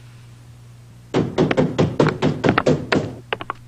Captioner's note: knock at door